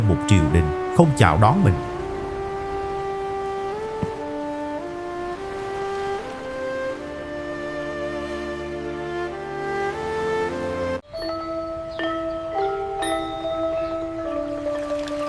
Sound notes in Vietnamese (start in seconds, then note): 11.1 chuông